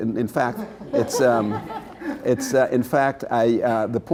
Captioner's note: laughter